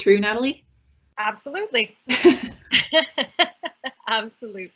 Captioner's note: laughing